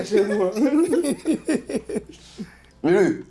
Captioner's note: laughs